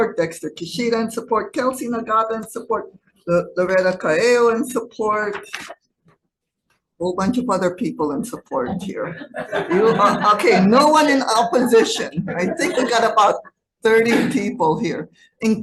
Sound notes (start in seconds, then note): 9.0 audience laughing